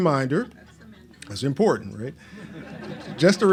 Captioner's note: laughs